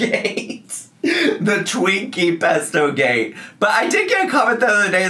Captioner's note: laughs